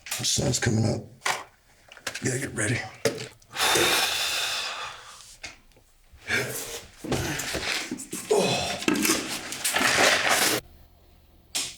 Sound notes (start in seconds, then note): 3.5 Brown sighing